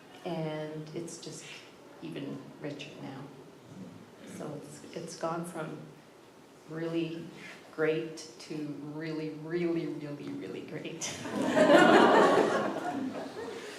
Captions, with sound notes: and it's just even richer now. So it's gone from really great to really, really, really, really great. (laughter)